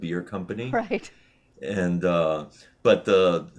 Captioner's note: chuckles